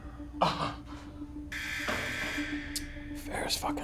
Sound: buzz

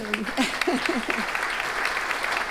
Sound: laughs; audience applauding

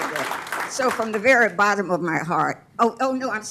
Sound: applause

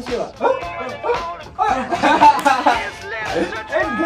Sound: happy laugh sound

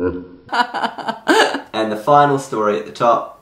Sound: laughing

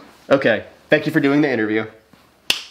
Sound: hands slap

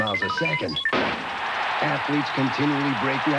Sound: starter's pistol, crowd cheers

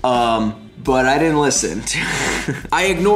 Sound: laughs

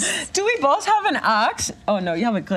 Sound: imitating German accent

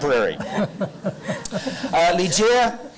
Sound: light crowd laughter

